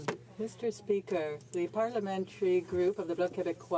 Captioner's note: speaking in french